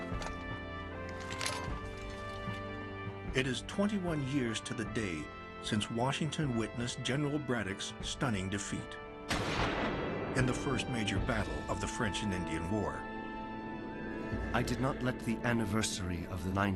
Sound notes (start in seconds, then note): 9.3 gunshot